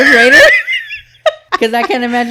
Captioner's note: laughing